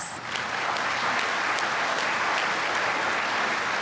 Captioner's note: applause